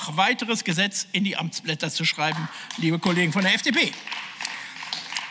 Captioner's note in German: Beifall